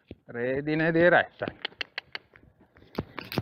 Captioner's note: cluck